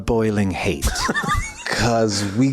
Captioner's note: laughs